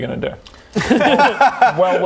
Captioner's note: easy laugh